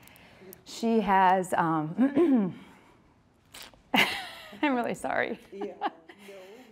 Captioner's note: laughs